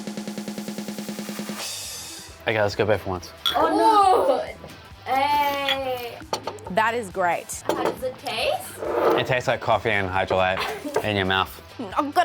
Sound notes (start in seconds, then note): 0.0 upbeat drum music; 3.4 glass clinks; 3.6 groans